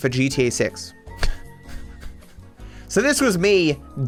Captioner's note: laughs